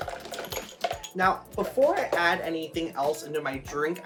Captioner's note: none